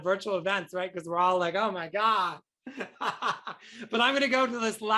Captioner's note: laughs